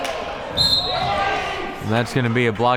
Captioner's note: whistle blaring